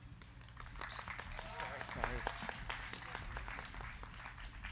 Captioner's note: crowd clapping